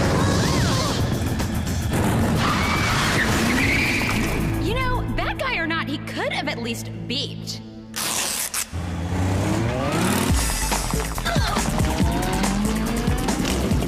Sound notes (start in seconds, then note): 4.5 motorcycle sound